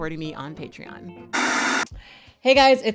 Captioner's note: static buzzes